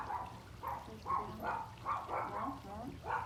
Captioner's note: barking continues